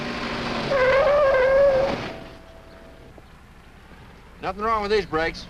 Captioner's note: tires screeching